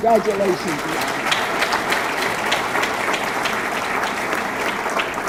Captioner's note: audience clapping